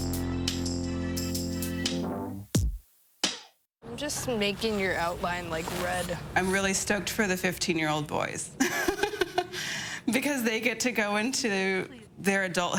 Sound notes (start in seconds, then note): 8.6 laughs